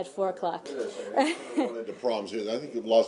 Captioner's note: laughter